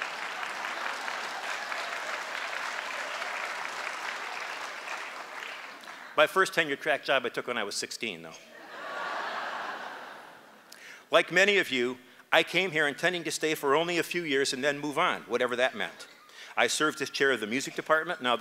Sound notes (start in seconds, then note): 0.0 applause